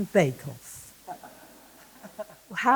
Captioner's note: laughter